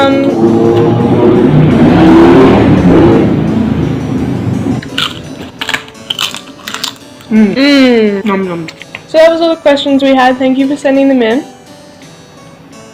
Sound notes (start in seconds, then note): 0.0 loud motorbike outside; 4.8 lots of cronch; 5.6 cronch; 7.3 lots of mmms